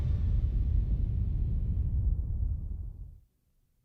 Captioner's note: logo rumbling